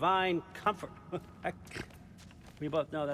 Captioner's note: laugh